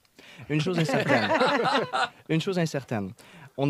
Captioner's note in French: rires